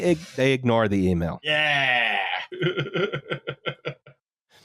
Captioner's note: laughs